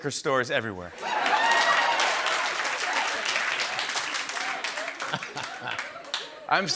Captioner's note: laughter, cheering, and applause